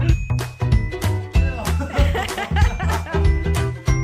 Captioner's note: laughing